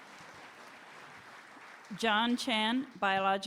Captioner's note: applause